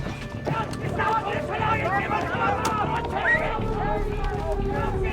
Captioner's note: soldiers yelling; siren wails